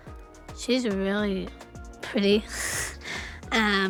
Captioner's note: laughs